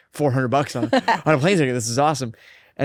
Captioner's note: laughs